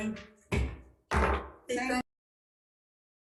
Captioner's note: gavel banging